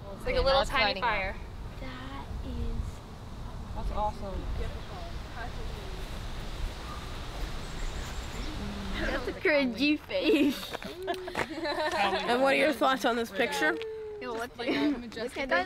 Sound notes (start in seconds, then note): 8.4 laughter, chatter